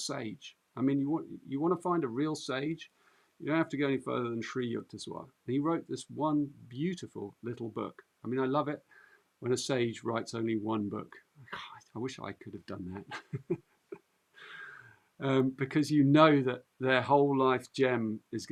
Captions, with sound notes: I mean, you want to find a real sage, you don't have to go any further than Sri Yukteswar. And he wrote this one beautiful little book. I mean, I love it when a sage writes only one book. God, I wish I could have done that. [laughs] Because you know that their whole life gem is going to be in it.